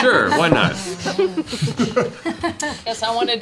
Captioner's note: laughter